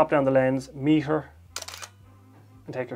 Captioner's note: shutter sound